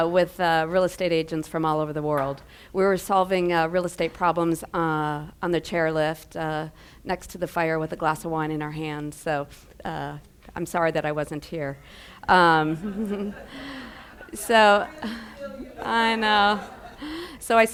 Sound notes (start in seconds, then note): 12.4 giggles